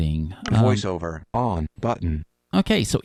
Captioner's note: electronic Voice